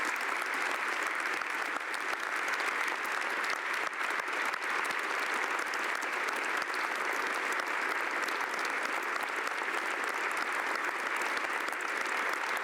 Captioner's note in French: applaudissements